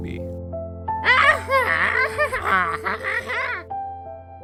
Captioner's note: Wacky Walter noises